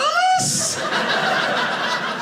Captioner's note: audience laughing